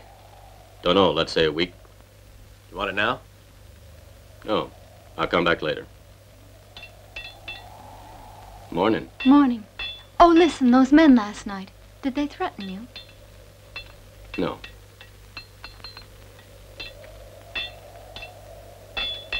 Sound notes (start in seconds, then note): 13.7 metal tinging